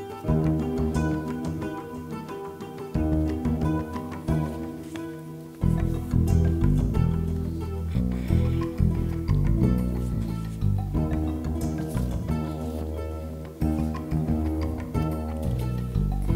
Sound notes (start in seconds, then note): 0.3 percussive string music continues; 7.8 clearing throat; 9.1 writing sounds and papers shuffling; 12.1 percussive string music continues